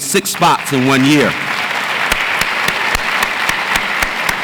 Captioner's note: audience applauds